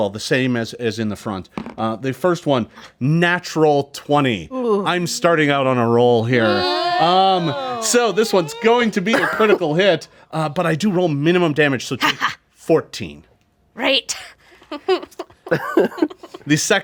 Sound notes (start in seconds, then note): 6.3 group groans; 14.7 group laughs